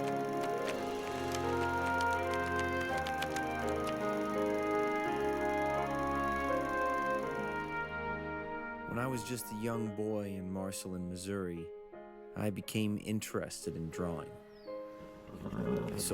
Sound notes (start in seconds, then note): 1.4 soft music playing; 4.2 movie projector running